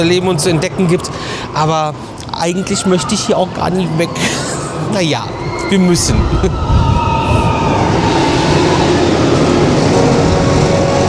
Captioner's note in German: schreien